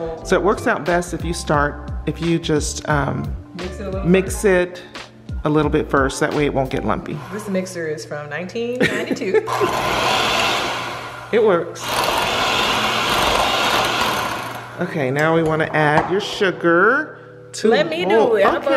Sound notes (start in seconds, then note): 8.8 laughing; 9.4 mixer whirring